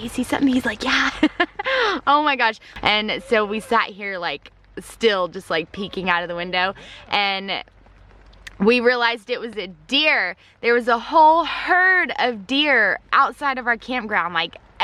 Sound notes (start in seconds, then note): 1.0 laughing